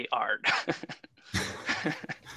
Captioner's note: laughter